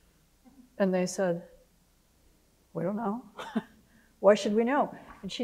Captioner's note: laughs